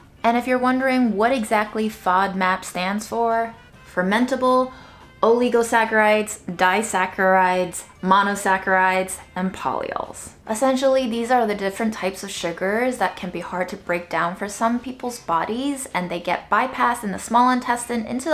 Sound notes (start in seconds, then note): none